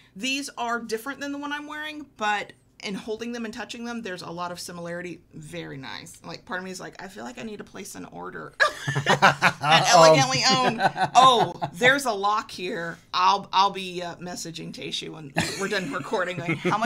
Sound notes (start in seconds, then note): 8.6 laughing